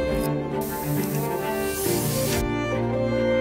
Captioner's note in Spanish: Sonido de spray para el cabello